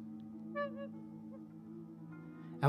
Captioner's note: owls cooing